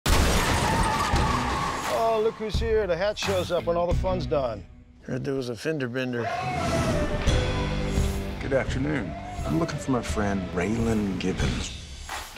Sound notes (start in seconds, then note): 0.0 crash; 6.2 dramatic music